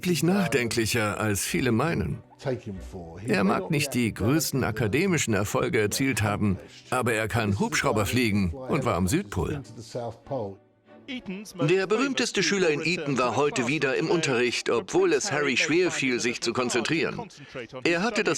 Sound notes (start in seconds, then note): 11.1 voiceover